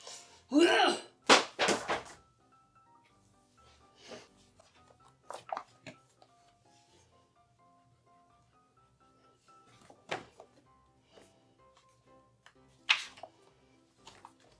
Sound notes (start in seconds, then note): 1.3 planner colliding with door